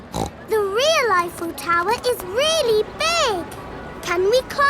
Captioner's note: snorts